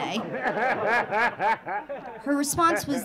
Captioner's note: audience laughing